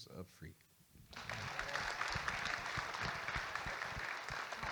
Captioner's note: audience Applauding